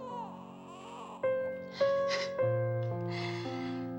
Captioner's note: sobs